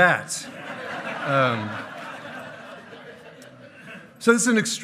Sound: hearty laughing

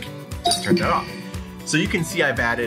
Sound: computer chimes

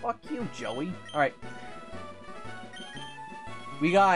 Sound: Joey Wheeler voice; normal voice

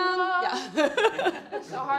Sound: singing in foreign language; laughing

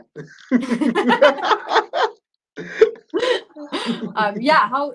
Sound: laughter

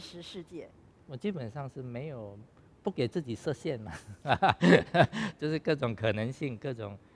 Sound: laughs

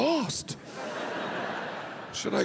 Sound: audience laughing

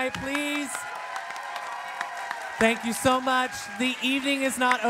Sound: applause

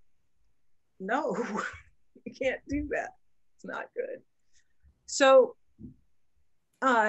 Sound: laughs

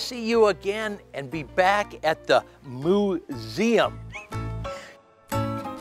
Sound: chuckles; playful music

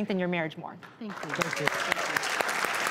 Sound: applause

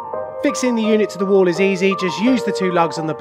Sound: voiceover

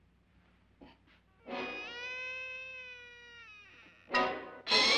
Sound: door creaks open; suspenseful music

